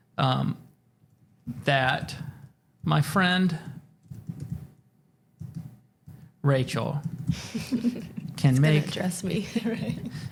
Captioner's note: chuckles